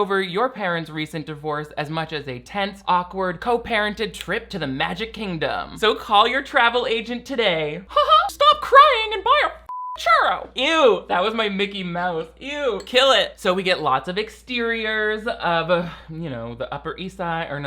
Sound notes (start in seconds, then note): 9.7 beeps